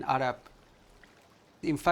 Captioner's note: river flowing